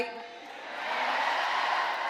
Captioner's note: cheering; applause